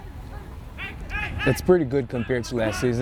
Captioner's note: players shouting